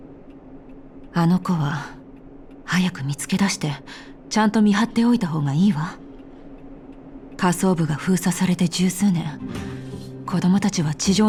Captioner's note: sigh